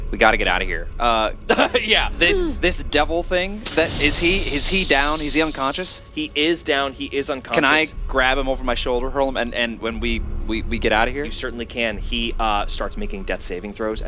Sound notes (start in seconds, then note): 1.4 laughs